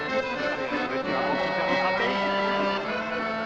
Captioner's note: speaking French